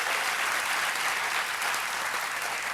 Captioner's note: applause